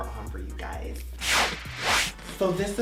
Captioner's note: loud swooshes